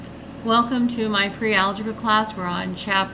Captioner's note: voiceover